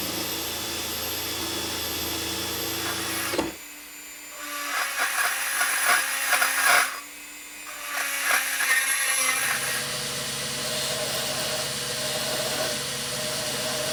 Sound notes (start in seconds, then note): 10.3 grinding sound